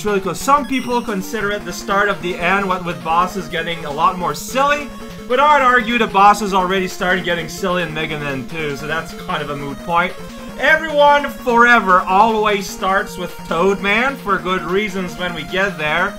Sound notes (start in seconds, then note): none